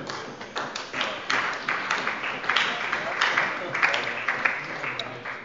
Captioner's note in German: Beifall bei der SPD und der LINKEN